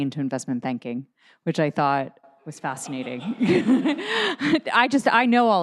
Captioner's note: laughs